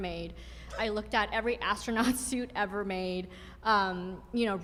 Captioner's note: laughs